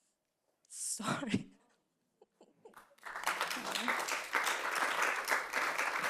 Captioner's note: panelists applauding